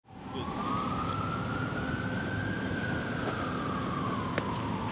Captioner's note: police sirens